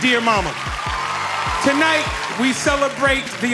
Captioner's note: audience cheering